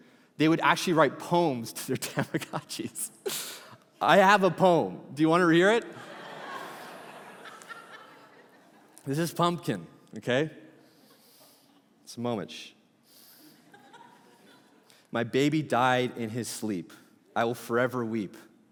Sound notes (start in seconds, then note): 5.8 congregation laughing